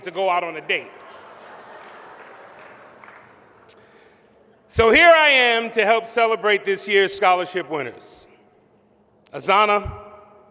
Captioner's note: laughter